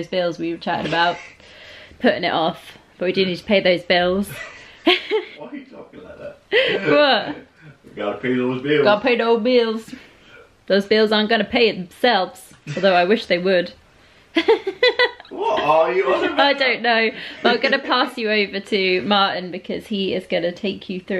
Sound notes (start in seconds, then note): 4.3 laughter; 14.3 laughter